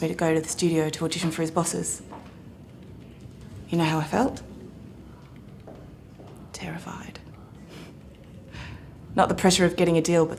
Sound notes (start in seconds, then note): none